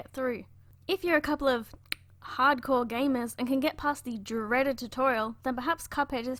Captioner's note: tongue click